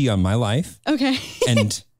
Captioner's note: chuckles